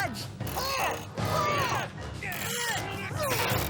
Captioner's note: effort grunts